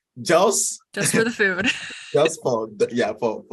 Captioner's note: chuckles